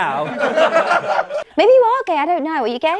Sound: people laughing

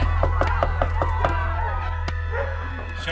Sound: knocking

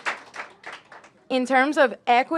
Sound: applause

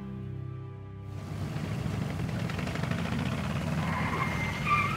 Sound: engine rumbling; brakes squeak

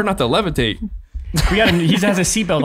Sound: all laughing

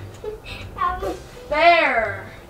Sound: laughs

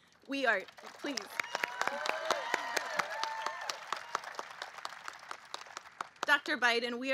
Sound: applause

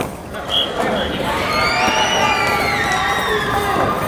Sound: cheering

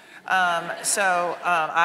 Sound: audience laughing

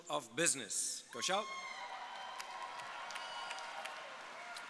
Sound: audience applauding

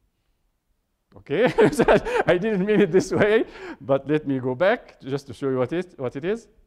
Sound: laughing

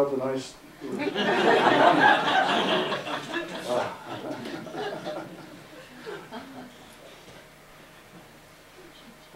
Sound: audience Laughter

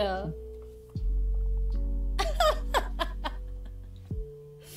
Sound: laughing

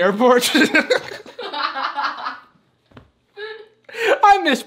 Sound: laughing

